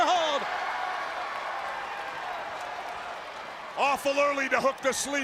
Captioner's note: crowd cheering